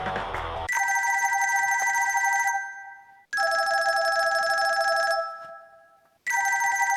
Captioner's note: loud ringtone goes off